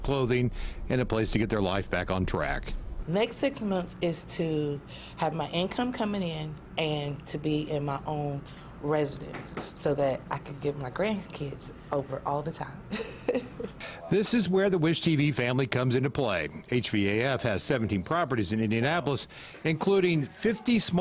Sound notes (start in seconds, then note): 12.9 laughs